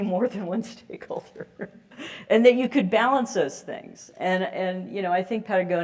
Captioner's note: laugh